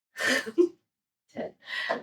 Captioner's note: laughs